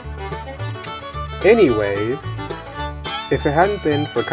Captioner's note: disapproving click